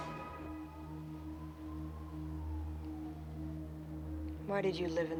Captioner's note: sirens wailing